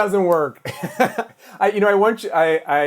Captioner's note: laughs